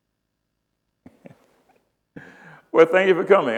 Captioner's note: chuckles